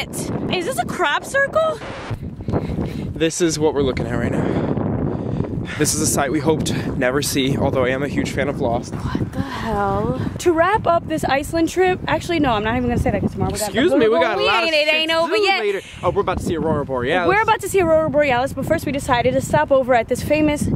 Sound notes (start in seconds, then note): 1.6 record scratches